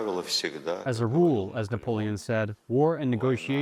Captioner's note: through translator